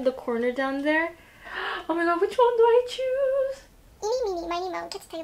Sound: dramatic gasp

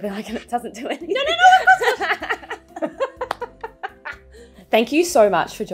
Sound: presenters laughing

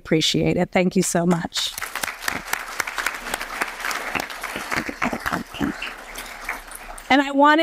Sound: applause

